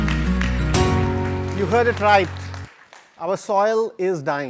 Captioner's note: applause